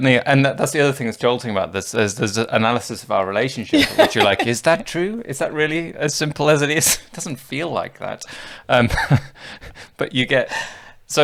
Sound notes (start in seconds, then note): 9.3 laughs